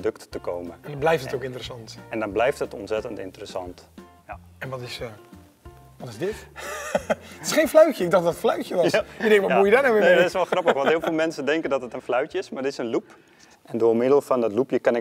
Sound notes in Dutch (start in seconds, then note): 6.6 lacht